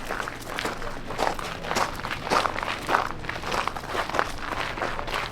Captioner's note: footsteps on gravel path